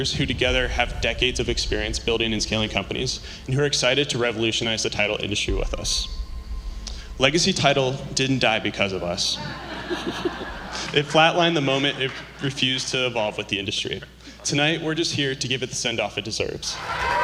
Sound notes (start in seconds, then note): 9.4 laughter; 16.7 cheering, applause